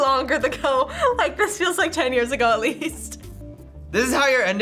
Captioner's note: chuckles